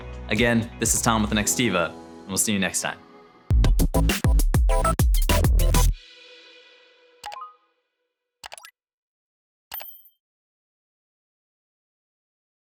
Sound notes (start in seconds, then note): 3.4 upbeat music; 8.4 mouse clicking